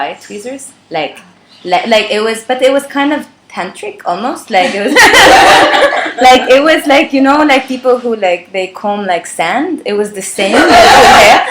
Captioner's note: laughter